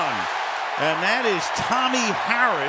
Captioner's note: cheering